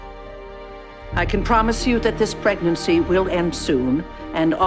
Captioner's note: voiceover